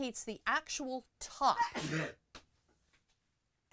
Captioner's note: aggressive sneezing